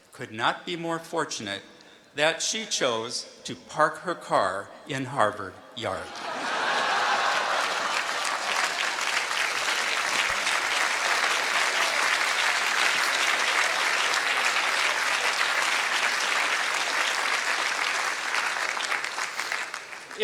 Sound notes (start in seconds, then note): 5.9 laughter; 7.5 applause